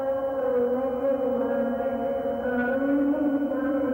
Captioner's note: humming